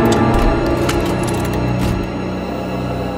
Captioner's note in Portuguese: maquinário mexendo